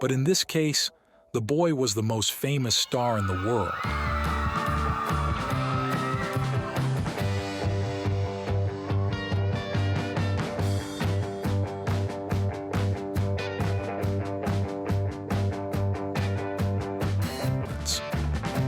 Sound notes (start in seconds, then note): 4.9 crowd screaming; 7.8 upbeat music